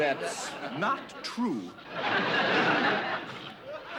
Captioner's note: laughter